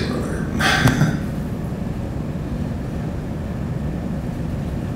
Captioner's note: laughing